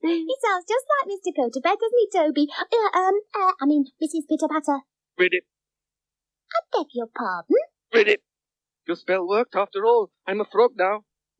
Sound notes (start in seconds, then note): 5.1 Toby makes frog noises; 8.1 continues making frog noises